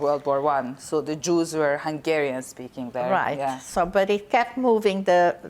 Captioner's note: none